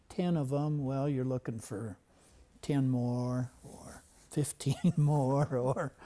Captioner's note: laughing